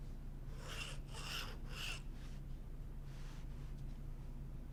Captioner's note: nib scratching